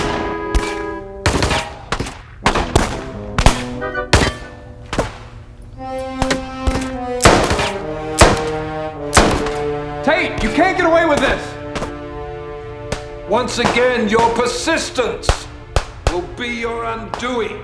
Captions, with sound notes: (dramatic music) (gun firing) Tate, you can't get away with this! - Once again, your persistence will be your undoing.